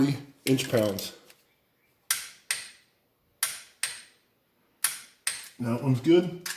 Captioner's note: torque wrench clicks multiple times